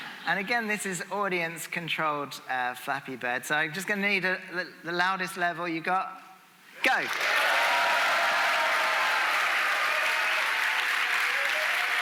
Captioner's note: audience making noise